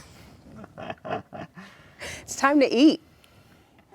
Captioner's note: laughing